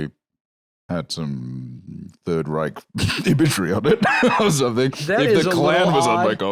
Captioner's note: laughs